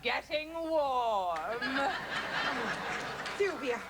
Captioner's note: laughter